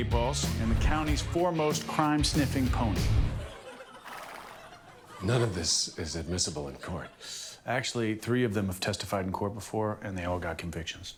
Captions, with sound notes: sack full of magic eight balls, and the county's foremost crime sniffing pony. -(PONY WHEEZING) -(AUDIENCE LAUGHING) None of this is admissible in court. Actually, three of them have testified in court before